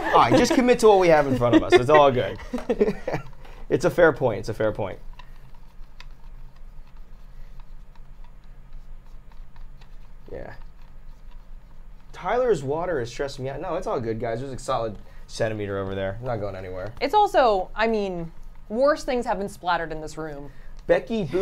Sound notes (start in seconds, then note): 5.7 fan whirring